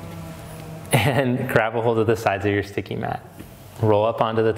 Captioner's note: laughs